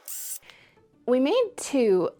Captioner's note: drilling